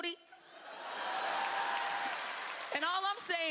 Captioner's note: laughter